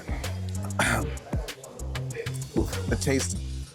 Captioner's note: clears throat